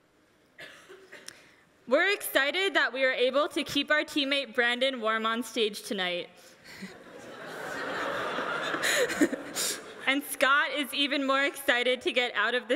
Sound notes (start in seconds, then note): 6.9 everyone laughing